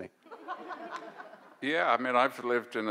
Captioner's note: audience laughs